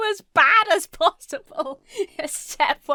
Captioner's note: laughs